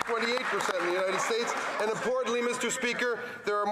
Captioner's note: some Applause